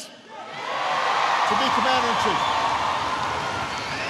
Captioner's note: applause